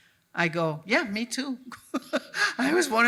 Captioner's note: chuckles